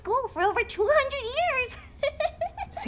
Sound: laughter

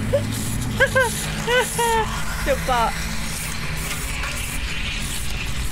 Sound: goofy laugh

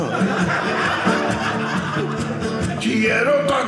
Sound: audience laughing

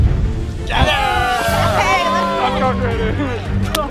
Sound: celebrating

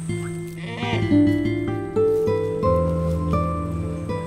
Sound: hippos screeches; soft instrumental music

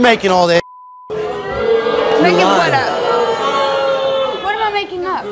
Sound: beep; audience booing

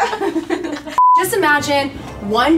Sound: laughs; beeps

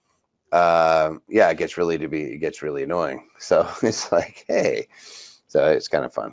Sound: chuckles

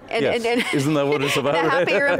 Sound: laughs

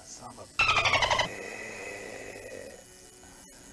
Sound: dolphin Noises

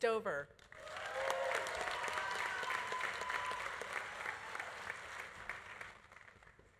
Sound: audience applauding; audience cheering

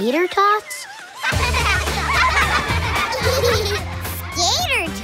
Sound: laughing

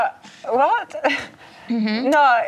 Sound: imitates German accent

